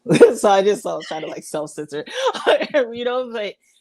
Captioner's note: laughs